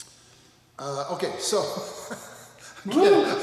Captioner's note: laughs